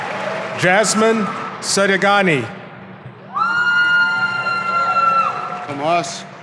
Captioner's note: audience applauding